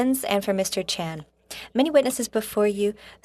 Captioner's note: speaking French